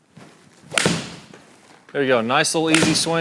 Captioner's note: golf ball thwacks; golf ball thwacks